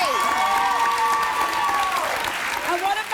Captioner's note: cheering